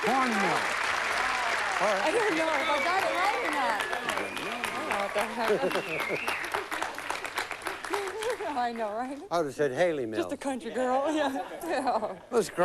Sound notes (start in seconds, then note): 5.3 chuckling; 6.6 applause